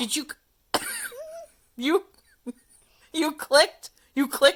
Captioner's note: laughs